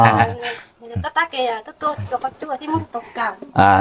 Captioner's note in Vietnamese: tiếng cười